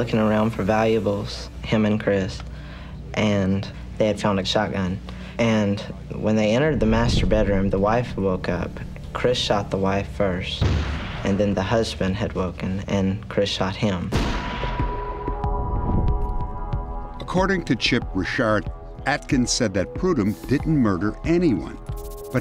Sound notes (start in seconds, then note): 10.6 gunshot; 14.1 gunshot